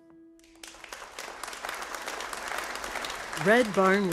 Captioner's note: audience applauding